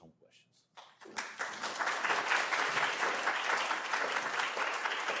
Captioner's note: applause